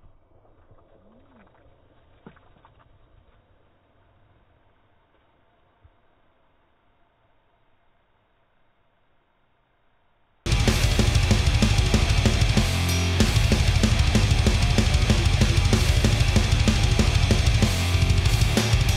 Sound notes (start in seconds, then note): 1.3 liquid splattering; 10.4 loud heavy metal music playing